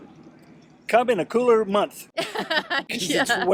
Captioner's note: laughs